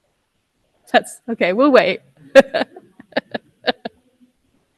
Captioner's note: laughs